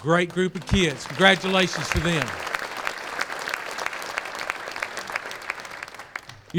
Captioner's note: applause